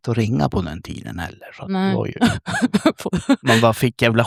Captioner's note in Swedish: skratt